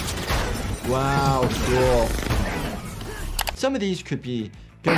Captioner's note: guns firing